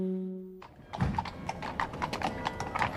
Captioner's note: none